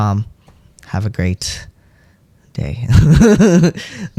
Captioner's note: laugh